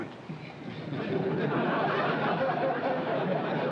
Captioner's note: laughter